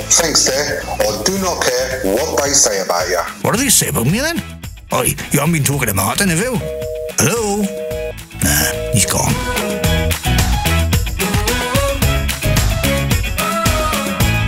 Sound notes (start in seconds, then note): 8.4 phone beeping